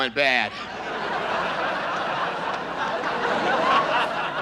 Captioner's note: audience laughs